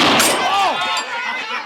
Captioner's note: gunfire